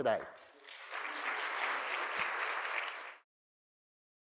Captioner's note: audience applauding